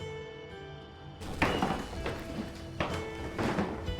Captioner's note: door opens